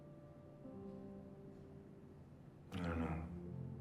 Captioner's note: none